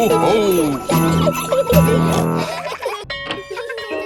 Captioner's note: children giggling; peppa snorts; bell tolling; children laughing